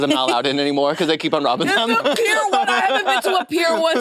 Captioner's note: laughs